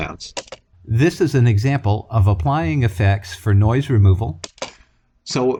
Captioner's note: voiceover